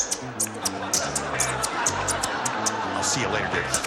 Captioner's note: squeaking